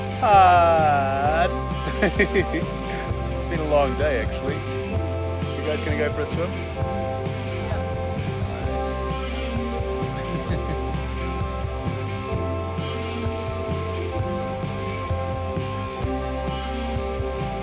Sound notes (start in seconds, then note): 1.7 laughs; 10.0 chuckles softly